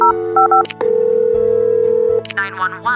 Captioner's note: phone ringing